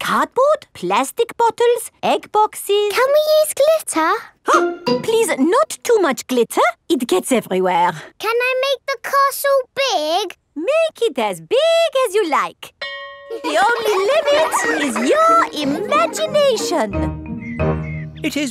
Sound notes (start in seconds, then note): 12.8 school bell rings; 13.3 children laughing